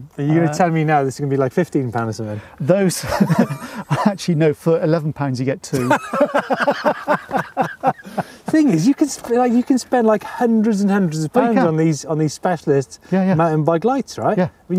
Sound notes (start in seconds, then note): 5.7 both laugh